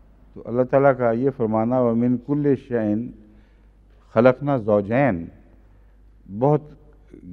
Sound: Arabic

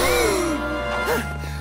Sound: sighing

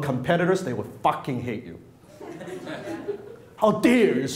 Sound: audience laughs

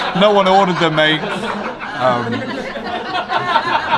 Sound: group laughing

